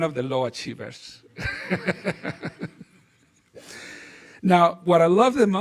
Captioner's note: laughing